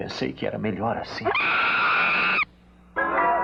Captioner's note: screaming